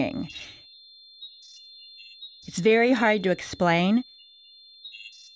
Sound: tonex2, beepsx2, chirps

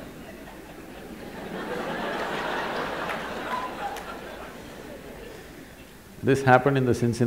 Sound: laughter

